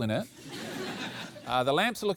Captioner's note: laughter